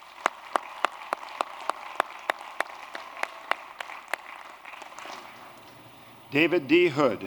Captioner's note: applause